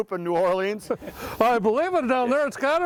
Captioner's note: chuckles